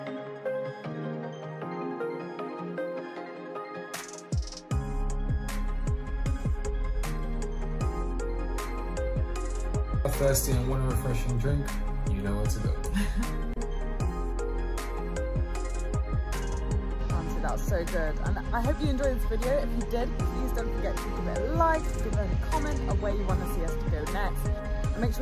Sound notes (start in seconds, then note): 0.1 peaceful upbeat music; 12.9 chuckling